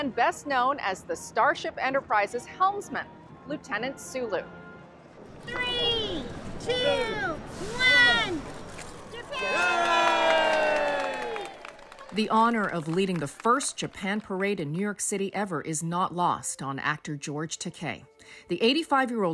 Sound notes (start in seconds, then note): 9.0 cheering and clapping